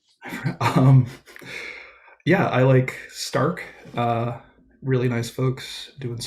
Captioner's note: chuckles